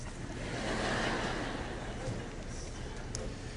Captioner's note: laughter